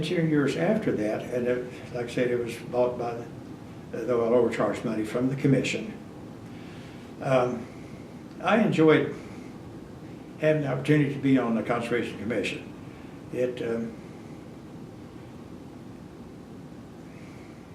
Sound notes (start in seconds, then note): none